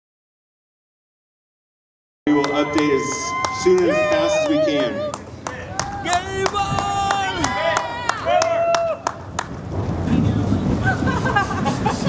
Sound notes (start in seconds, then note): 5.0 applause; 8.9 cheering; 9.1 clapping; 10.7 laughter